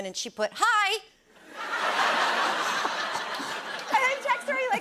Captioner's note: laughter